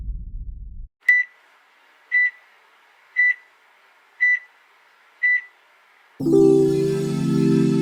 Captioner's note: heart monitor beeps